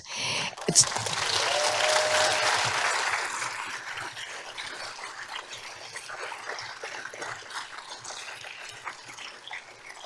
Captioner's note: applause